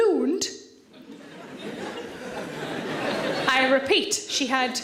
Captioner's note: audience laughs